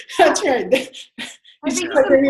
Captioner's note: laughter